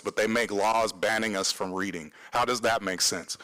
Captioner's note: none